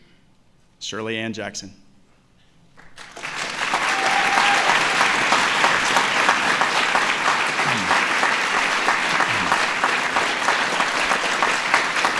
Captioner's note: applause